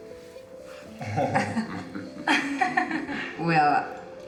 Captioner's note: laughing